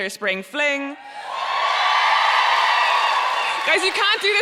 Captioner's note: audience cheering and applauding